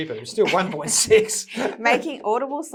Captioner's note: laughing